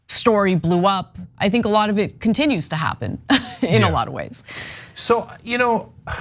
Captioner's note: laugh